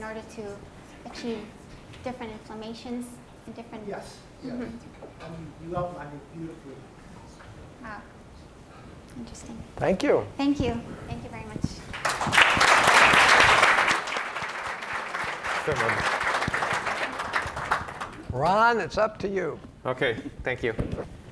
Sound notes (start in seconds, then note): 11.9 audience applause